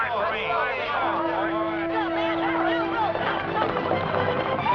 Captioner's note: clamoring; dramatic music